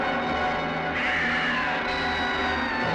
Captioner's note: screaming